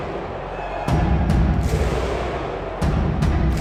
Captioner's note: drum thudding; crowd cheering; drum thudding; drum thudding continues